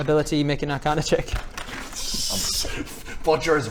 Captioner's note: destructive giggling